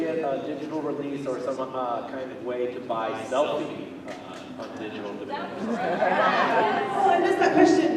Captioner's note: other fans agreeing